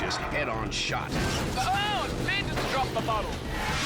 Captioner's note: motorcycles clash